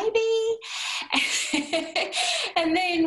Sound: laughter

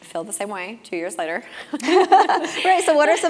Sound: laugh

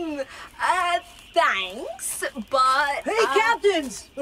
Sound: calls out

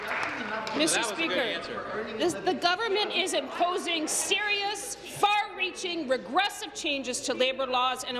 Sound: applause

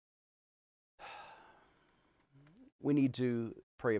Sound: sighing

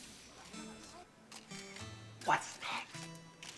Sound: whispers

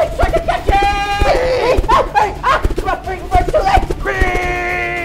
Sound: shouting

